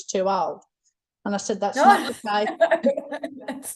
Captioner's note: laughs